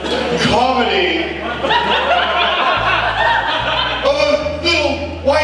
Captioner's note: audience laughs